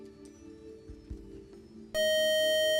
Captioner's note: time up buzzer